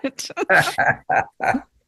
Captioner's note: laughing